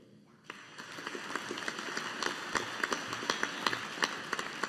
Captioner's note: audience applauding